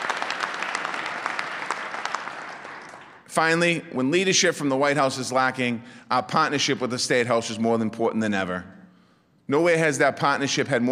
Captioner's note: applause